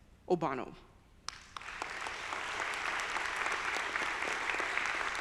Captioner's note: audience applauding